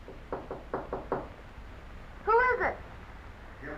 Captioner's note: knocking